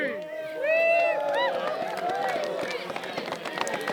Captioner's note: cheering